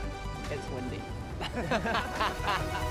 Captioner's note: laughing